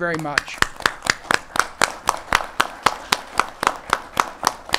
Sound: audience applauding

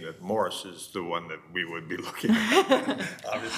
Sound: laughs

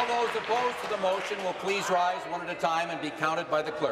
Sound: cheering; applause

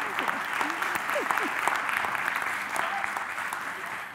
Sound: applause

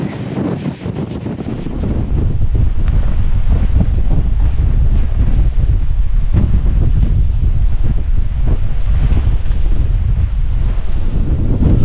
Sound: powerful wind

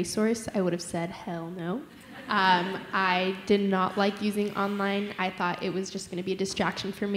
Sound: laughter

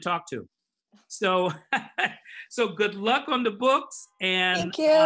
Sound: laughs

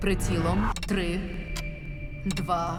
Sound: clock ticking

